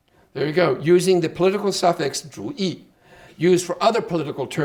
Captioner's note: speaking Chinese